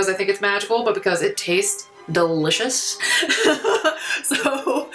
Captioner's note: laughs